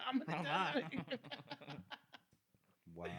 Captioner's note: laughing